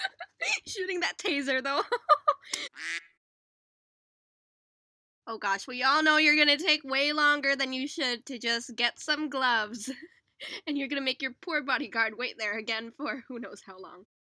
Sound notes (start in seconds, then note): 2.7 quack